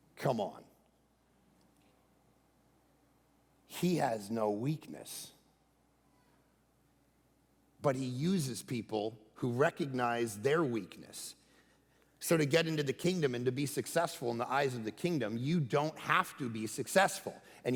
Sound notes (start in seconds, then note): none